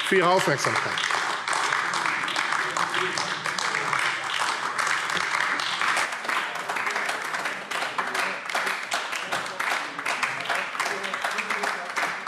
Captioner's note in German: Anhaltender Beifall AfD